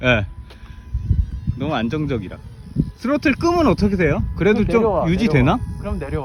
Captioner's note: Throttle